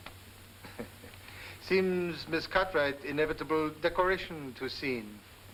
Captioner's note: chuckles